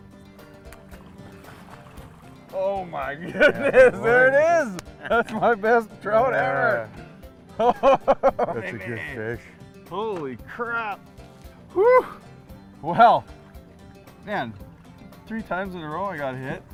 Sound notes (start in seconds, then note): 0.1 splashing